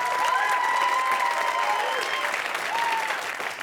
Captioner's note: cheers and applause